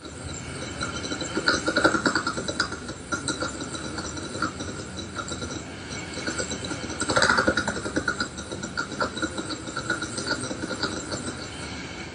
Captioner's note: deep mechanical sound